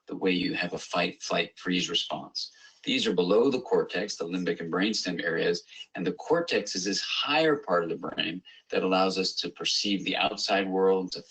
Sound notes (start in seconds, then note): none